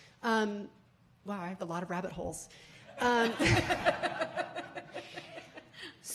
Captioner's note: laughing